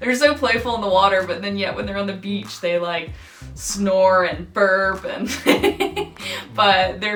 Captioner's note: laughs